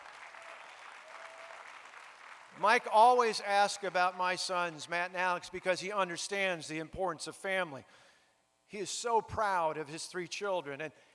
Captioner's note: applause